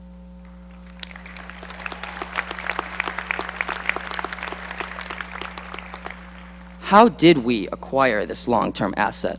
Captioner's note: applause